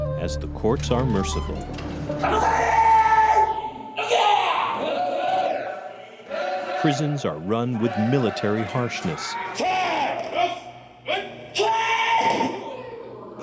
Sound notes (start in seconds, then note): 2.4 shouting in foreign language; 5.1 chanting in foreign language; 10.4 chanting in foreign language